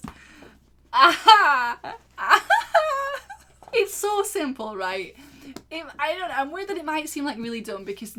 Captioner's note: laughs